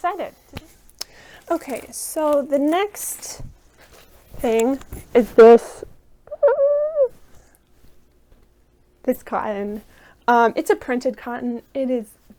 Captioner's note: tiny scream